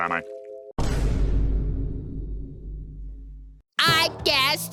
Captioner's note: boom